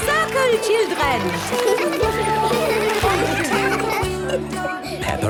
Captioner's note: laughter; giggling